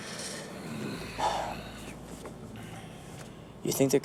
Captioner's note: sigh